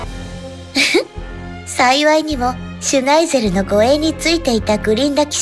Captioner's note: giggle